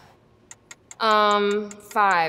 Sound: timer ticks

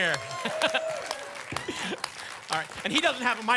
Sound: laughter, applause, cheering

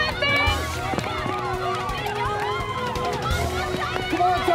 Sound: students cheering

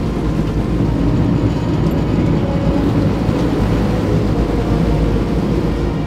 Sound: boat powering down

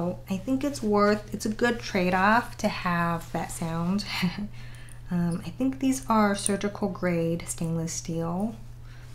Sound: laugh

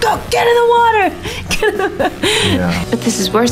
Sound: laughs

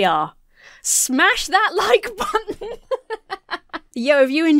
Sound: laughs

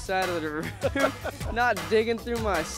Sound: chuckles

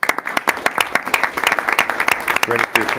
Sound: audience applauding

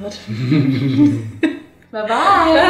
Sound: laughing

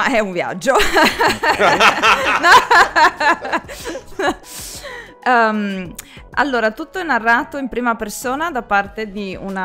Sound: laughs

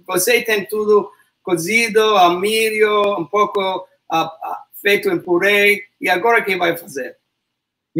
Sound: speaks portuguese

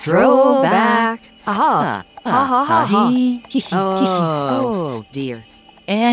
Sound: laughter

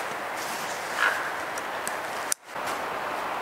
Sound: clicking sound

